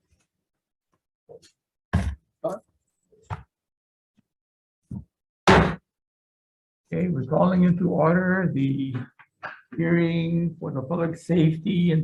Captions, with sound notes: (papers thudding) (gavel slams) Okay, we're calling into order, the hearing for the public safety